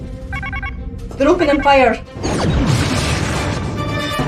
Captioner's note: alarm